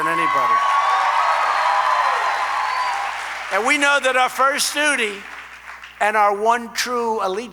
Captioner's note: applause